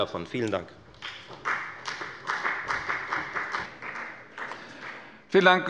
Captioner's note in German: Beifall bei der FDP